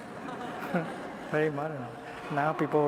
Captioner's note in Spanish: Risas